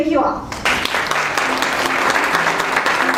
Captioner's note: applause